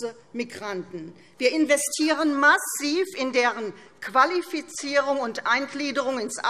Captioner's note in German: none